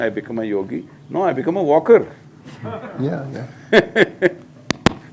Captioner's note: laughter